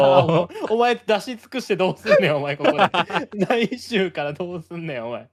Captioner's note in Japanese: 笑い